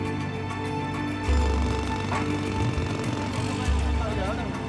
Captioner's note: jackhammering Continues